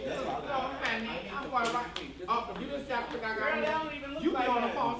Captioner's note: indistinct chattering